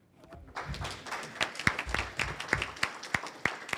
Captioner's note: applause